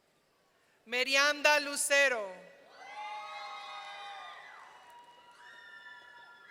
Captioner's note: audience cheering